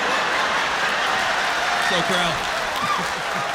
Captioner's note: laughter